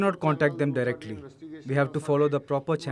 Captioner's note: speaking alternate language